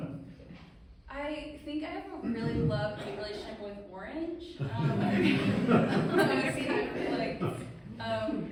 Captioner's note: laughing